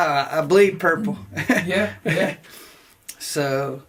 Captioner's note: laughs